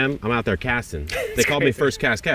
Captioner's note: laughing